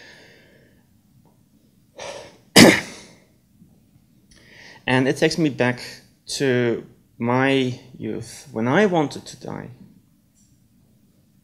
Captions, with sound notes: (coughs) And it takes me back to my youth when I wanted to die.